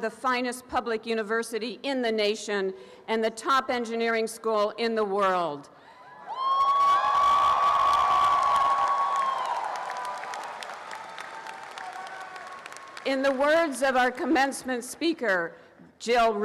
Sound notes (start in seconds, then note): 6.3 applause and cheering